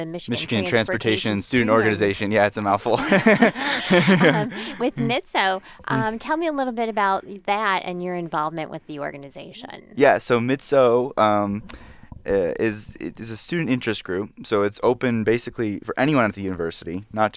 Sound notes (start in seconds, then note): 2.9 laugh